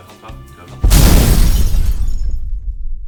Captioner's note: explosion